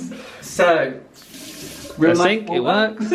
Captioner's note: water hisses